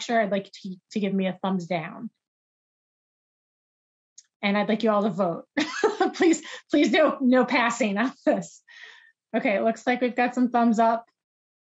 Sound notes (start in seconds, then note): 5.8 laughs